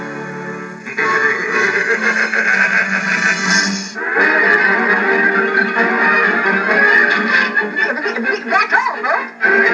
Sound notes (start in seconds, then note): 0.9 laughing; 4.0 theme Music